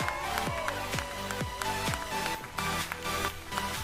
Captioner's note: applauding